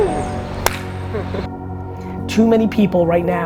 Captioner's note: claps hands; laughs